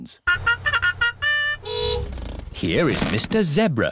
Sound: fanfare; horn honks

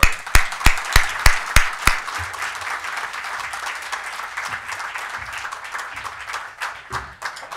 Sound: applause

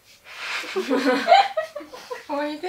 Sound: laughter

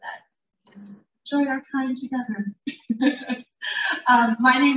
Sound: laughs

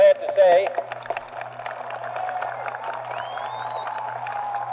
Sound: cheers and applause

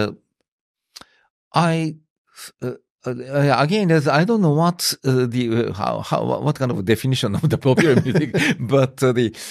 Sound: laughs

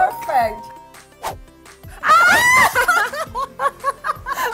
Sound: laughing

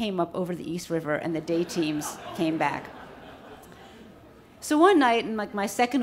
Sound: audience laughs

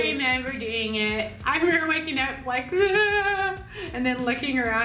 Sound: sobbing

